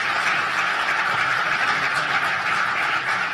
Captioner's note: applause